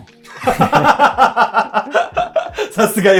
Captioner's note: laughing